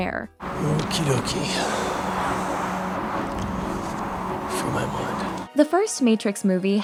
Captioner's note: exhales deeply